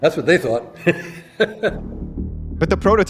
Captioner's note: laugh